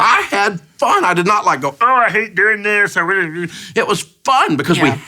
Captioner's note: murmurs